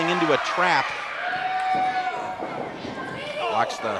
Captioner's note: crowd yells; groans